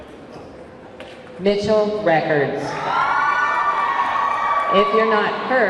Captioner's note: audience clamoring